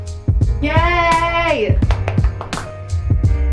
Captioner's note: claps; mellow music